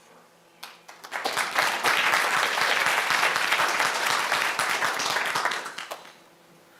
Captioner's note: applause